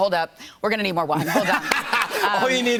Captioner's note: laughter